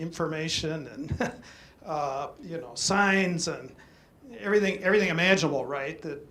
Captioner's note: chuckles